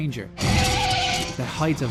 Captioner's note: metal shrieking; screeching tyres